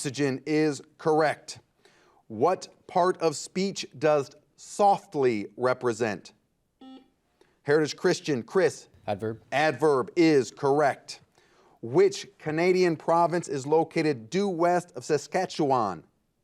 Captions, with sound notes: - Oxygen is correct. What part of speech does softly represent? (buzzer beeping) Heritage Christian. Chris. - Adverb? - Adverb is correct. Which Canadian province is located due west of Saskatchewan?